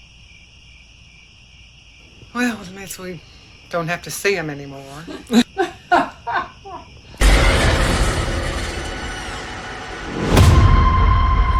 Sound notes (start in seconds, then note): 4.9 laughing; 7.2 jump scare